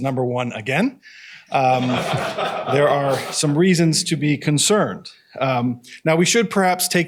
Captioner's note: laughter